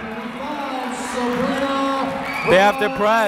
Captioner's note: clapping